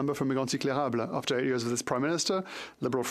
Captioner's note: speaking French